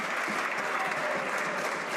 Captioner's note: some Applause